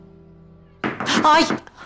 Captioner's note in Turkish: Kapı tıklatma sesi